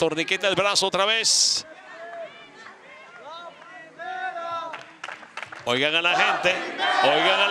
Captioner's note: applause